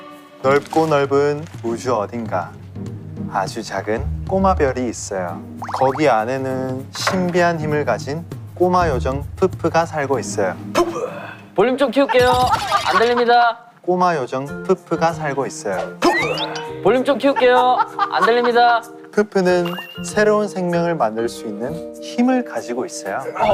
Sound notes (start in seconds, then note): 12.1 laughing out loud